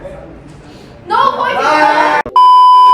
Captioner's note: yells; beep sound effect